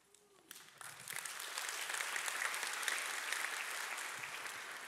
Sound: audience applauding

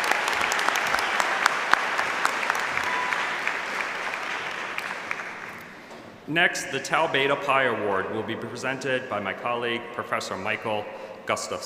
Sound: applause

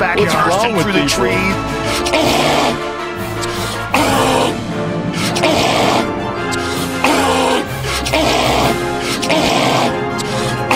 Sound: gorilla like noises are made

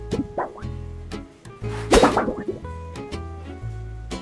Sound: whoosh

